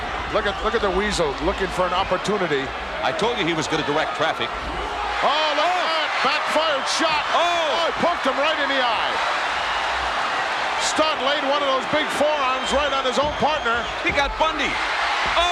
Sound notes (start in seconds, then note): 9.3 audience cheers